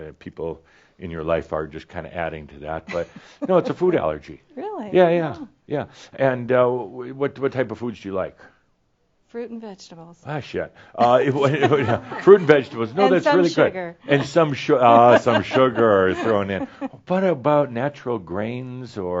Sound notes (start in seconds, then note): 11.0 she laughs; 14.0 she chuckles